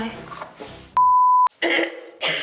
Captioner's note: beeping; coughing